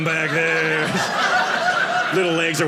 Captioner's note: audience laughing